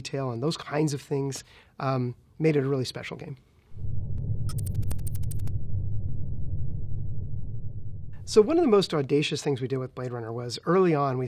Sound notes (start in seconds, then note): 4.5 electronic typing